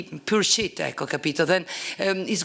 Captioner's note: italian